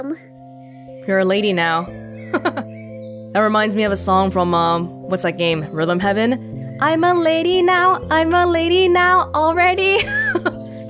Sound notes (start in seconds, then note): 2.3 chuckles; 9.9 chuckles